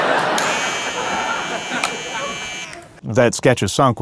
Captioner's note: razor buzzes